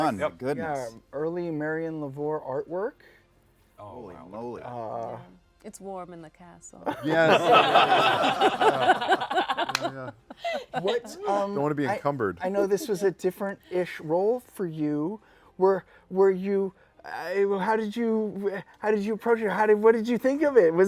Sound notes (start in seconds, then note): 6.8 laughter